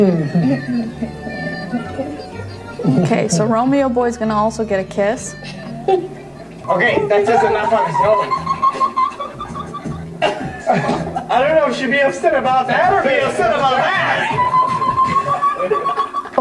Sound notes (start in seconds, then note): 0.3 fun music; 7.3 high pitched laugh; 14.1 high pitched laugh